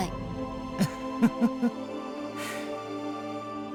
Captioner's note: chuckle